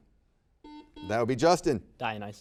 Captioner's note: buzzer beeps